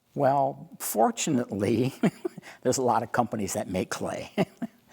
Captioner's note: laughing